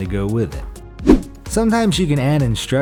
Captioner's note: air whooshes